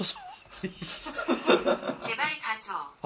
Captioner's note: laugh